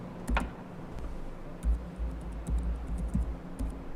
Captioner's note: typing on laptop